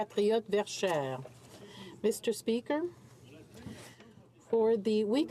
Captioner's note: speaking in french